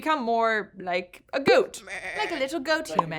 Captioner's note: goat baas